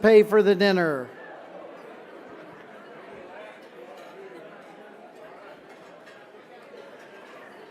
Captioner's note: chatter